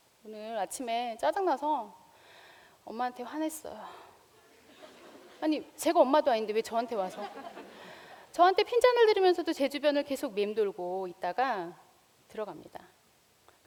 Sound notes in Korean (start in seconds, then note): 4.6 웃음; 7.0 웃음